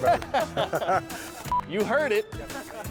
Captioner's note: both laughing